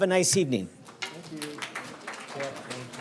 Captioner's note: students applauding